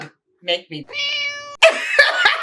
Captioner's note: meow